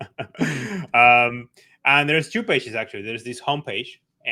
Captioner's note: laughs